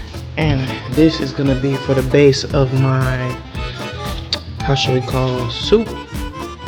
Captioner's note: music and clears throat